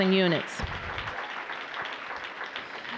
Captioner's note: applause